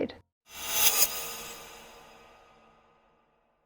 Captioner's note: whizzes